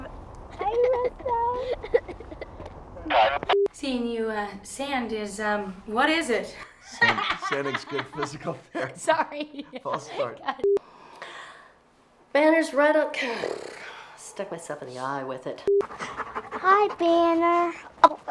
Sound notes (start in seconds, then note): 15.7 screen beeps; 15.8 dog panting